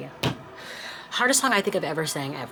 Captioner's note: table thuds